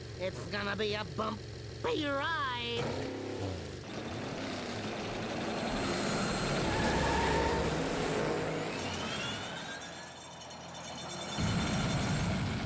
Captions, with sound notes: IT'S GONNA BE A BUMPY RIDE. [engines revving] [tires screeching] [metallic squeaking]